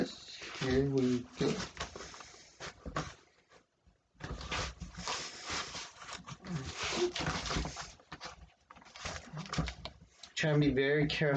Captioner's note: ripping of packaging tape; scrapping of cardboard